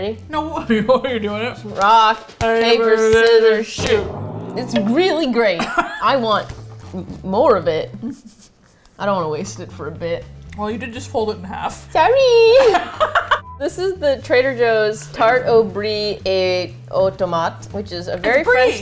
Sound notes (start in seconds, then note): 0.2 laughs; 11.7 high-pitched voice; 12.6 both laugh